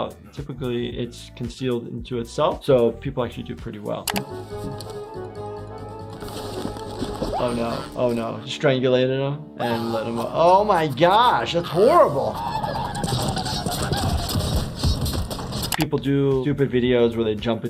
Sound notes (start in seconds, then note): 4.4 bouncy music; 7.3 Cuddles screaming; 11.4 Cuddles gagging